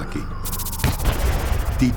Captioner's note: gunshot